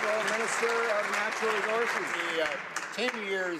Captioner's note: some Applause